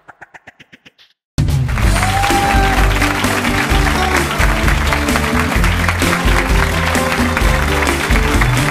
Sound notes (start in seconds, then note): 1.5 bright music; 1.6 audience applauding